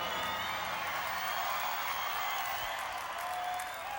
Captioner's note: crowd applauding